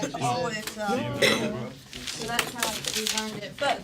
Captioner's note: students murmur